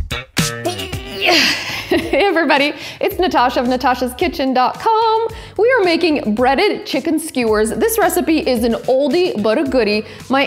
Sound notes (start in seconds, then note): 0.6 groans